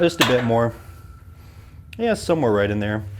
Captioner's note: metal clunking